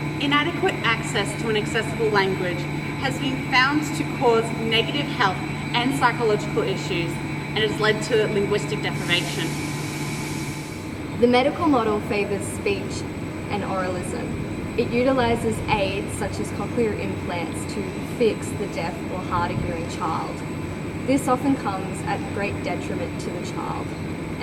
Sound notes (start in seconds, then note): 9.5 steam hissing in background; 10.8 aircon still ruins audio